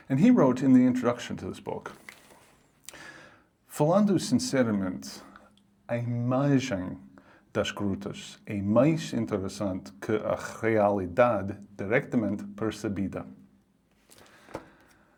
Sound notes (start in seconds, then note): 2.5 reading Portuguese